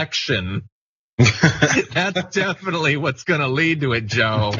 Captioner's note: laugh